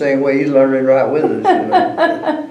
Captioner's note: laughter